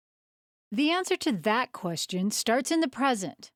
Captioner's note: voiceover